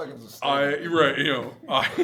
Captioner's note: laughing